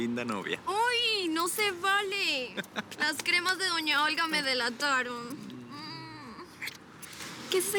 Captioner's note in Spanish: Risas